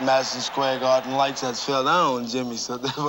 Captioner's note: laughing